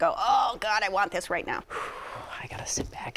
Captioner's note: exhales